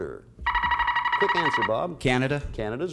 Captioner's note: buzzer sounds